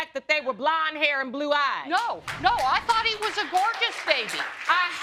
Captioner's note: audience clapping